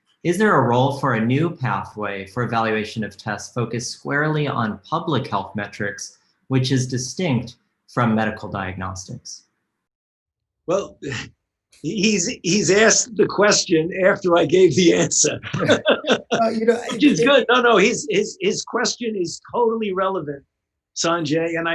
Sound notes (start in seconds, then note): 15.2 laughter